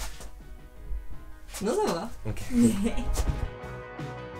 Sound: laughs

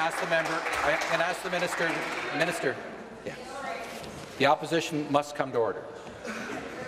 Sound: applause

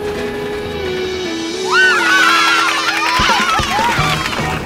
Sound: cheering

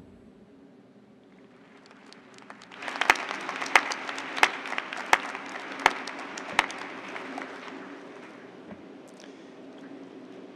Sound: cheers and applause

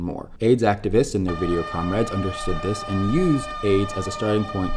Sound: airhorn

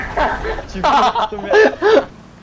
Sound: laughs

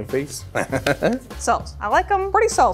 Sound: laughs

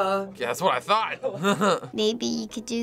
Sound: chuckling

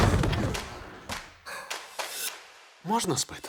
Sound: screams, thuds; sighs, sniffs

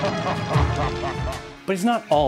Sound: scream, Mr. Big laughing

